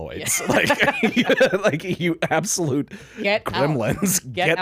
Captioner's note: laughing